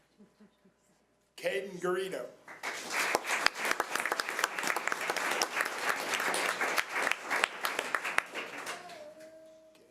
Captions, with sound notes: Kayden Gareno. (audience applause)